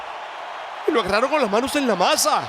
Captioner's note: applause